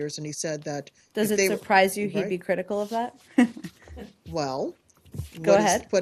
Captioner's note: laughter